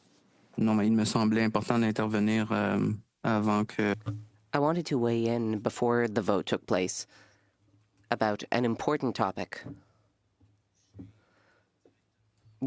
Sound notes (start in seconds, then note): 7.3 speaking French